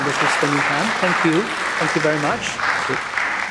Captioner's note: audience applause